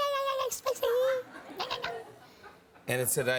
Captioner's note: light laughter